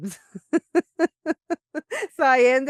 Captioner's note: laughs